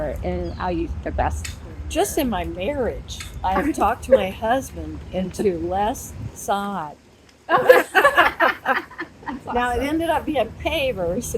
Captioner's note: laughter